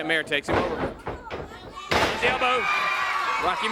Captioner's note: crowd cheering